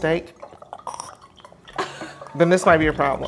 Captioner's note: laughs